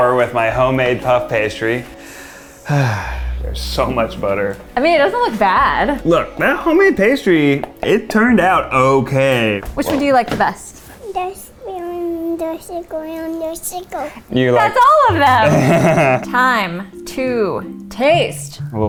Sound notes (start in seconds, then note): 1.8 sighs; 11.1 babbling; 15.3 laughs